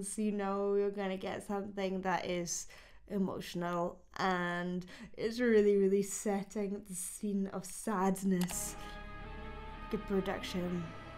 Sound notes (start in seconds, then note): 8.3 mouse clicks; 8.4 lonely music